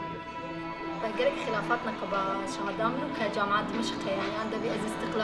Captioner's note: speaking foreign language